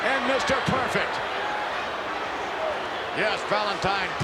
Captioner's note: crowd shout